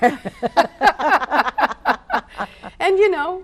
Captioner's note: laughing